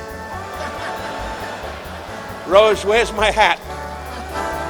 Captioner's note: audience cheering